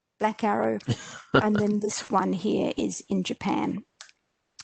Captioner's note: chuckles